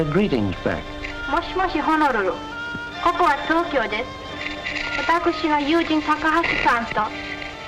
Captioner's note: speaking Japanese